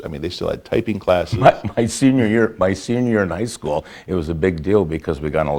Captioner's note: laughs